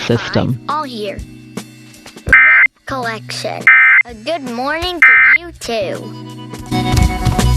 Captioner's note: alert Tones Following